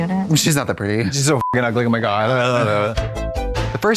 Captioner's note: beep